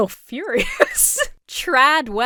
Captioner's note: laughs